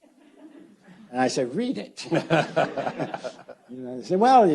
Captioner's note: audience laughs